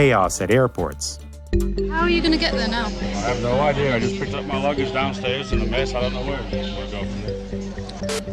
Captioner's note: television